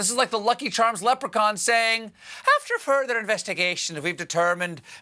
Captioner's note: irish accent